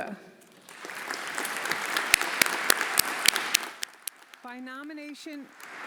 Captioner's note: everyone applauding